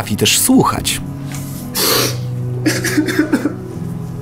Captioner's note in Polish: płacz